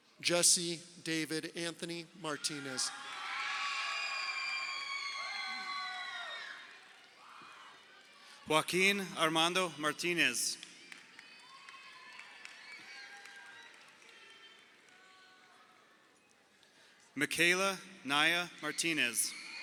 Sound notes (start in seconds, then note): 2.9 crowd cheering; 10.8 crowd cheering